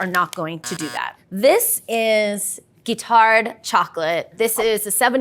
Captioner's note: buzzer sounds